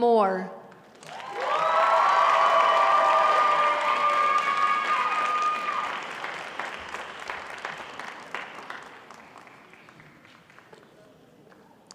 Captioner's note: crowd applauding